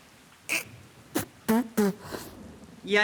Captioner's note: spitting